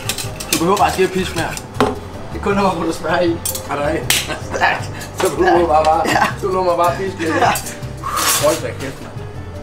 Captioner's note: both laughs